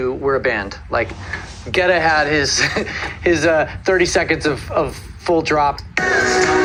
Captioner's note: chuckling